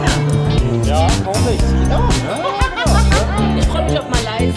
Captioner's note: laugh